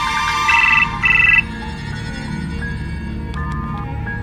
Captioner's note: phone rings